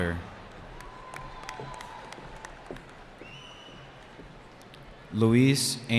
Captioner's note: cheering